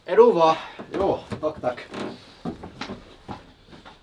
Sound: in Swedish

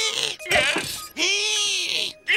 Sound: gasps

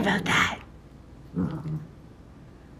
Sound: growl

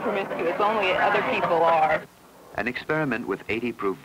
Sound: chatter

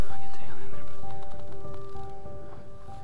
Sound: whispering

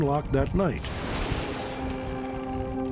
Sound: thunder

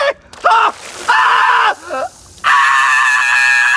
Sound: Shane yells

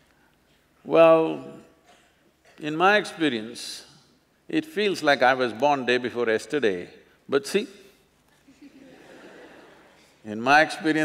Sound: few Laugh

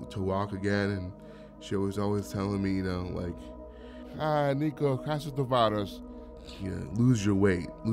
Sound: speaking greek

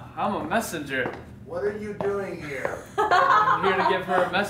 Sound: laughs

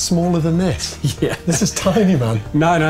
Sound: laughing

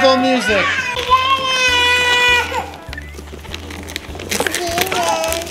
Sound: overlapping chatter

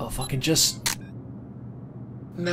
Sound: snap!

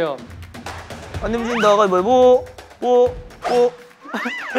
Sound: wobbling

